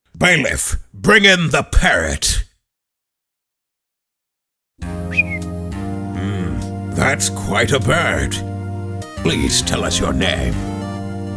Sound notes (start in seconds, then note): 5.0 Polly whistles